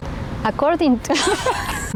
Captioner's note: laughing